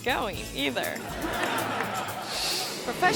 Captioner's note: audience laughing